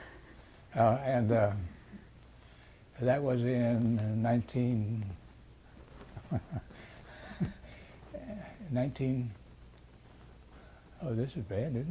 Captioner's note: laughs